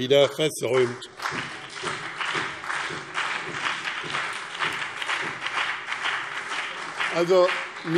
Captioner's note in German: Beifall BÜNDNIS 90/DIE GRÜNEN und CDU